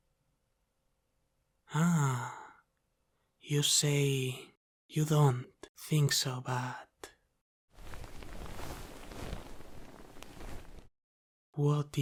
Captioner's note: sound of clothes